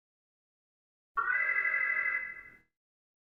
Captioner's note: alarm